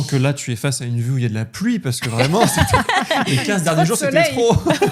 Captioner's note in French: rires